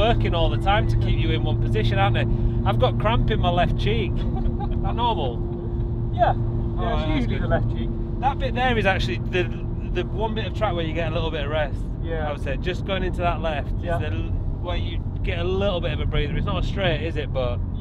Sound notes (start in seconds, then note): 4.1 laugh